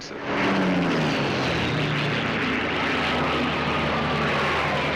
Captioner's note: engines rumbling